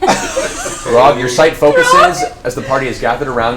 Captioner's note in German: lacht